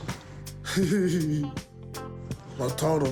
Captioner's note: chortles